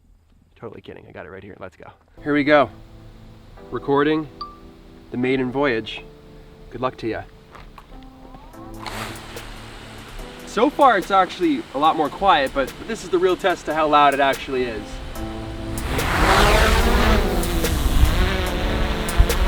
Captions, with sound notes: Totally kidding, I got it right here, let's go. Here we go. Recording the maiden voyage. Good luck to ya. So far it's actually a lot more quiet but this is the real test to how loud it actually is. (motor whizzing)